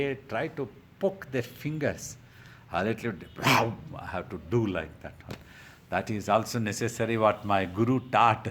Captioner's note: barking noise